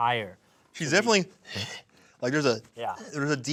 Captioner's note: huffs